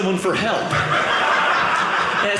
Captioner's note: audience laughing